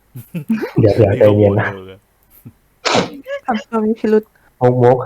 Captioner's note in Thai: ฮัดเช้ย